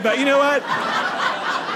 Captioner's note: audience laughing